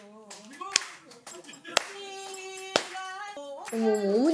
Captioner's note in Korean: 자동 박수